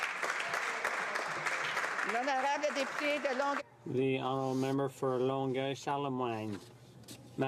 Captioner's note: some Applause